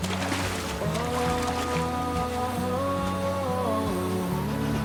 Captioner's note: water splashing